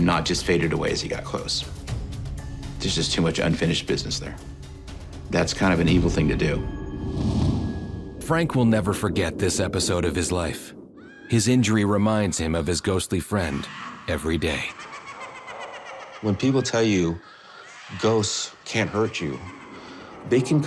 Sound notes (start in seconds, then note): 15.1 laughing